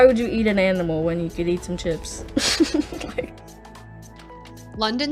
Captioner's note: laughs